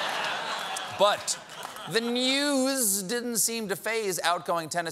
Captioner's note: laughter